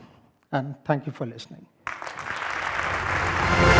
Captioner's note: applause